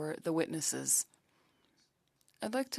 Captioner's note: speaking French